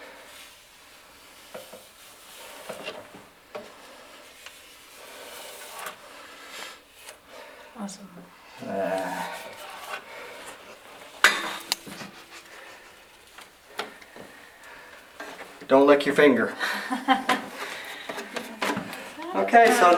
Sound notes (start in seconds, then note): 16.4 laughing